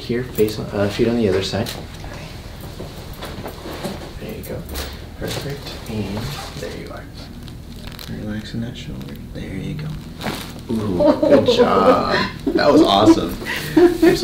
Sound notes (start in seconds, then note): 7.4 bone cracking; 10.3 bone cracks; 10.7 laughing